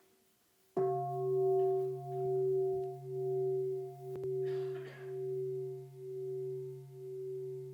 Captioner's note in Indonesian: Bunyi genta